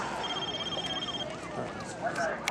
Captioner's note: cell phone rings